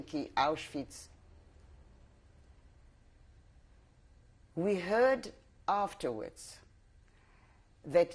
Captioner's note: pauses for 3 seconds